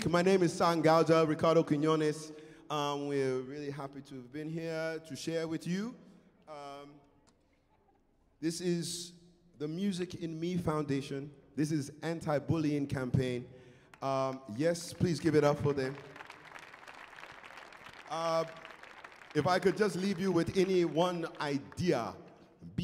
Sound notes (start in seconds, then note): 16.4 crowd applauds